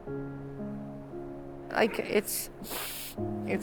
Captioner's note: sniffles